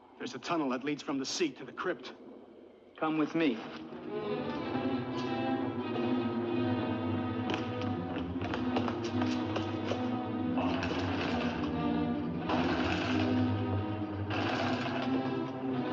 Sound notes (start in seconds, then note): 4.0 suspenseful music; 7.3 running footsteps; 10.9 portcullis rattles; 15.7 suspenseful music